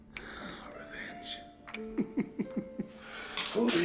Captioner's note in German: Kichert